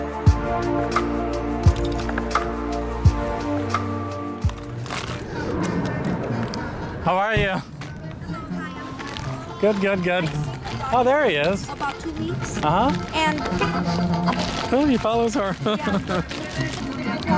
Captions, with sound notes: How are you? I'm good, how are you? Good, good, good. I seen the dog. Oh there he is. About 2 weeks. Uh huh. And... [Car honk] Oh he follows her. [Laughter] Yeah.